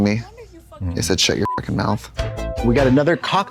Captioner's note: beep